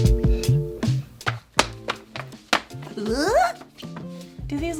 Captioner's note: foot stomps